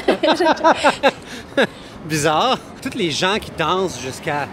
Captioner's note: laughs